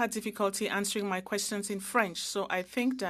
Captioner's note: speaking French